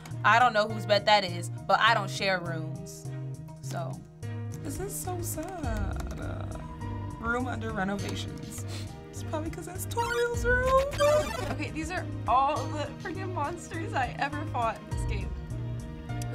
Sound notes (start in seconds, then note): none